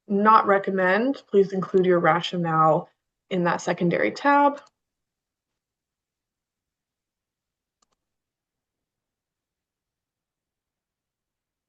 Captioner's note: pause